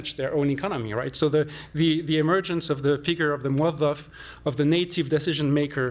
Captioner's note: non-english